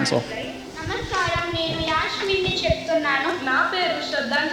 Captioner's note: non-english speech